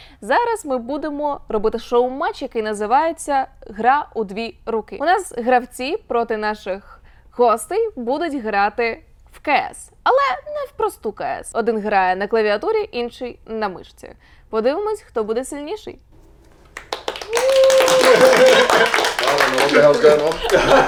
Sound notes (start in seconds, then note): 16.6 applause